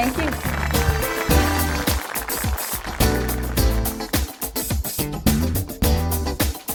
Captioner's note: audience applauds; upbeat music